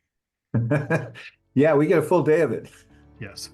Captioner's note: laugh